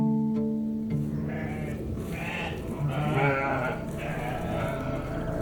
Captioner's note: desert day sound, wind gust and sheep bleating